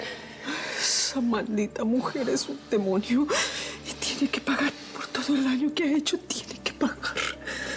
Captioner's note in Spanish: sollozos